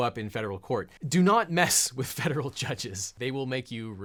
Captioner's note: chuckling